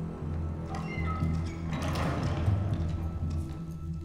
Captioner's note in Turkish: Kapı sesi